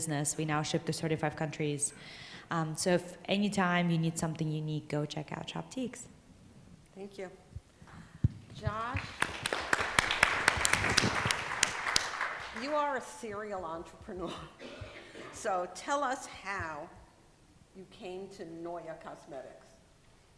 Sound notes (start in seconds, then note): 8.8 applause